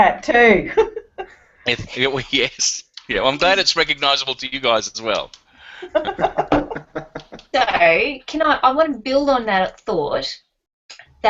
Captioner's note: laughing